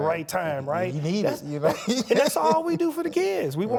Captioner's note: laughs